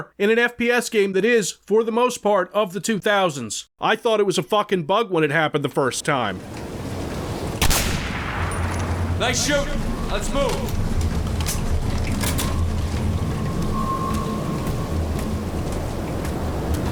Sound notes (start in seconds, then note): 7.6 sniper gunshot, bullet clacking on the ground; 13.8 faint sounds of a chopper amidst the calm howling wind